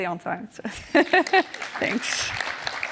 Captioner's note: laughs; applause